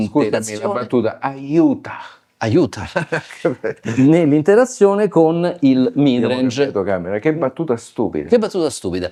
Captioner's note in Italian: risate